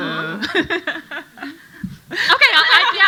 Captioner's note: panel laughing